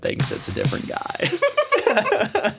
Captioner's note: all laughing